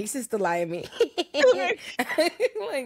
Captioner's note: laughing